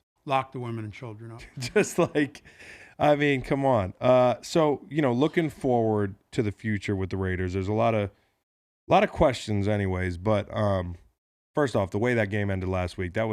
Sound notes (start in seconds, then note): 1.4 laughs